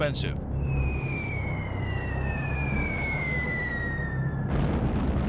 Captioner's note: bombs whistling